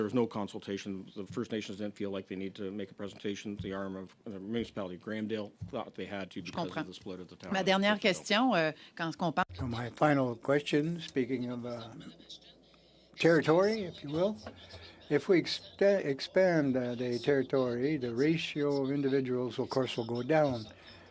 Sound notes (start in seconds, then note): 13.1 speaking French